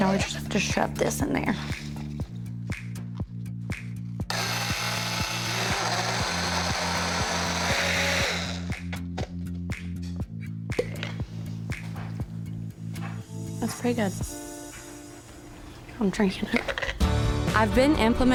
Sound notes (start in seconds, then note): 4.3 blender whirring; 10.7 lid pops off; 17.0 upbeat music